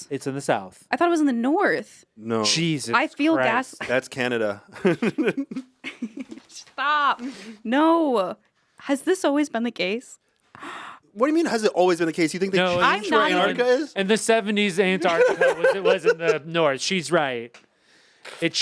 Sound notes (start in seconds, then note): 4.8 Anthony laughs; 4.8 laughs